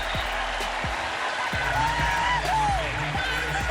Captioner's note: cheering